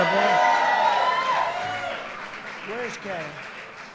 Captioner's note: applause